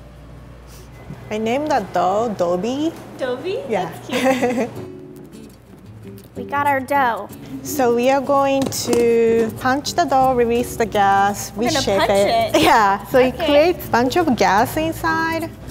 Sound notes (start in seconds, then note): 4.1 laughing